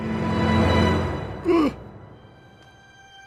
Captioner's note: gasps